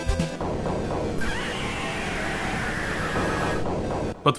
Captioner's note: powerful high-piched roar